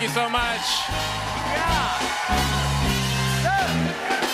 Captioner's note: cheers and applause